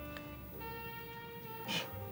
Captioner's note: scoffs